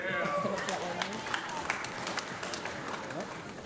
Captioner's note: audience clapping